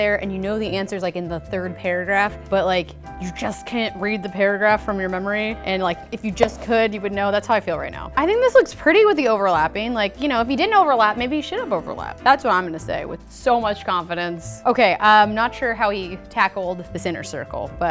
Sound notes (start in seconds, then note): none